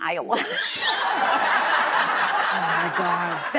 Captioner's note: laughter